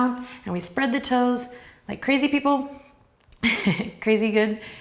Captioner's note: chuckles